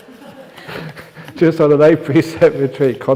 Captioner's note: laughter